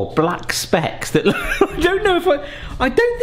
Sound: laughing

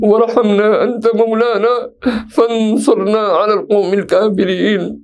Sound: arabic

